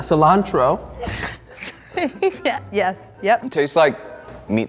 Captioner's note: laughing